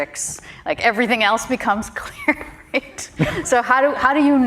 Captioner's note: chuckles